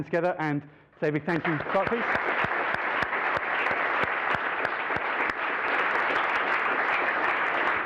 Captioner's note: applause